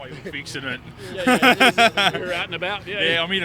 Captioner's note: chuckles